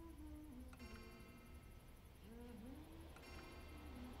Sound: clock chiming

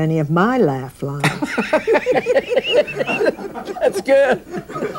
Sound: audience laughing

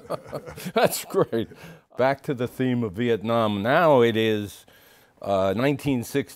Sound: laughs

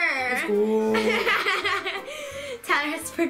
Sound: laughs

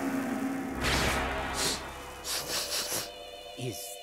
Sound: sniffing

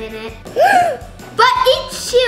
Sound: gasp

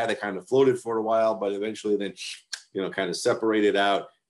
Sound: tongue clicks

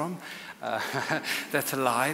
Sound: chuckles

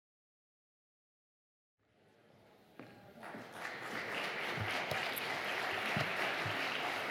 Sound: applause

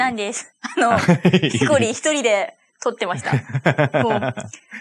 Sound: laughs

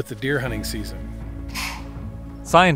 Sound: deer snorts

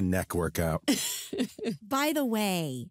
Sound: laughs

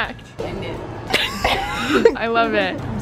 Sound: laughs

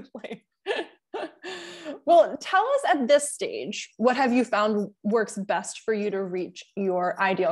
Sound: chuckle

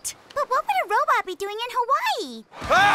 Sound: panicked screaming

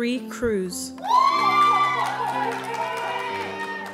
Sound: applause

